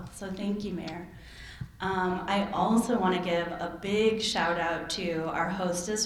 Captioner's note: none